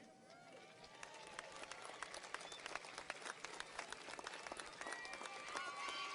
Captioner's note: audience cheers and applauds